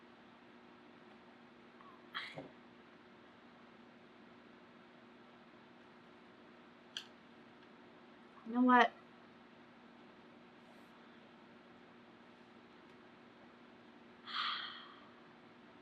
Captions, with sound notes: [SCOFFS] YOU KNOW WHAT [EXHALES LOUDLY]